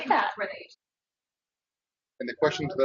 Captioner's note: woman speaks through warped and choppy audio